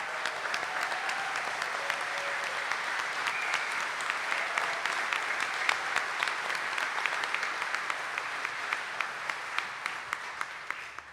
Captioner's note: audience cheering and applauding